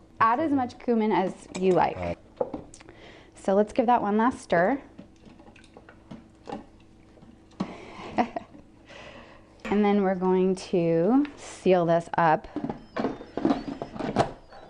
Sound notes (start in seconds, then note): 7.8 laughter